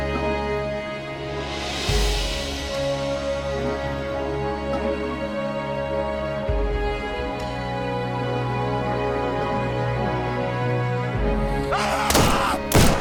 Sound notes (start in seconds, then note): 1.4 screaming